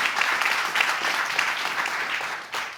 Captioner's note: audience applauding